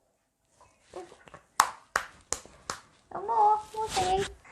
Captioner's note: claps